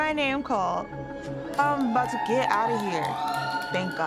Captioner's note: inmates cheering